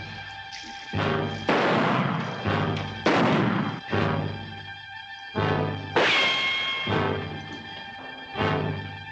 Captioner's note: gunshots